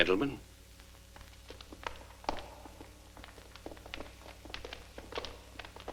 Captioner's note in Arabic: صوت خطوات قوية